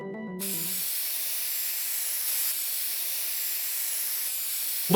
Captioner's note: sprayer whizzing